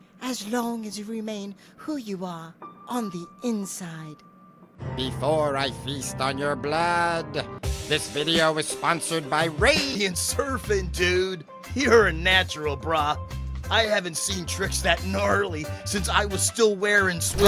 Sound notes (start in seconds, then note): 5.0 in vampire voice; 9.9 in surfer voice